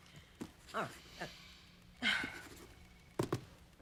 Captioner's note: sighs